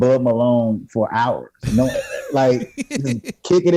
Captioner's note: laughs